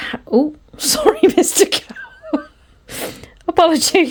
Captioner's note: laughs